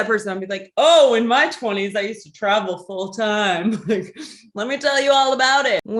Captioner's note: laughs